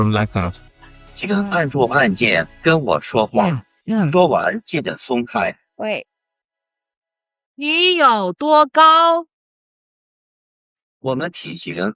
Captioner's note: foreign language